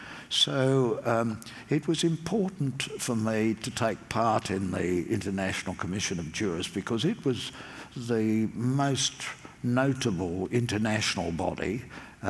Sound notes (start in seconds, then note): none